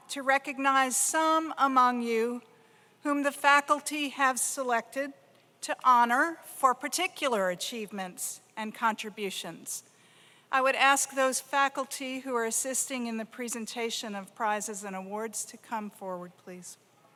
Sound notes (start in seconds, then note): none